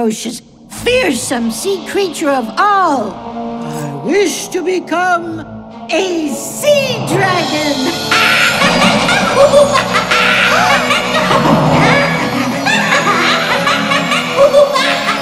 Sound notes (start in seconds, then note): 8.0 cackling; 10.1 gasping; 13.4 cackling